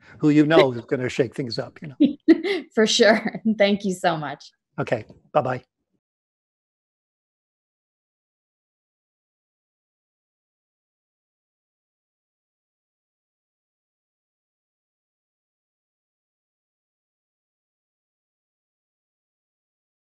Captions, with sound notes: who you know is gonna shake things up. - (laughs) For sure and thank you so much. - Okay. Bye bye.